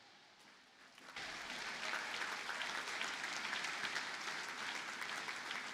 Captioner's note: audience applauding